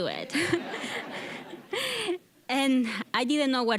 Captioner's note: all laughing